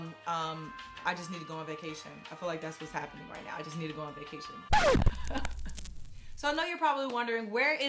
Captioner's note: sound effects; laugh